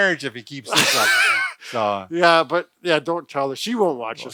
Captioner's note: laughs